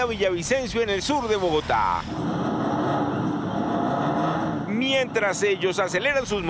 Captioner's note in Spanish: Bullicio